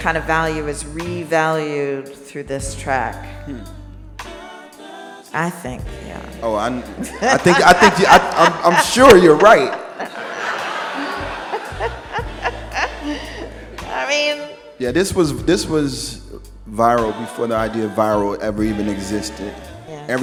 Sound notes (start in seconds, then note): 10.4 laughs; 11.5 audience laughs